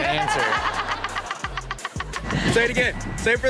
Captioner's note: Chanel and audience laughing